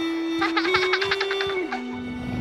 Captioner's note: laughing